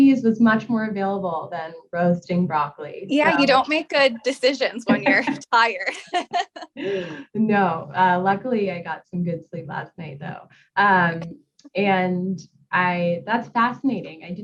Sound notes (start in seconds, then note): 5.8 laughs